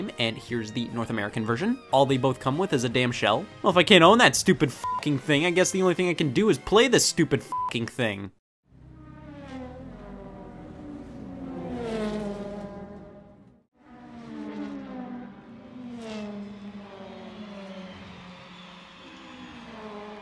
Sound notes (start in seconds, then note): 8.7 cars buzzing